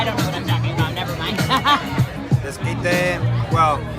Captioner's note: laughs